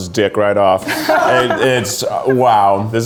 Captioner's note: laughs